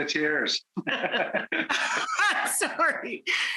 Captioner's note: both chuckle